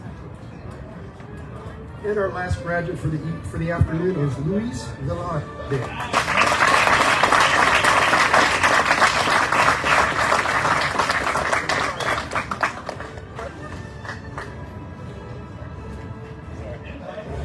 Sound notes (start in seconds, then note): 5.8 audience cheering, applauding